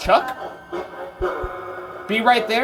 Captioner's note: device chatters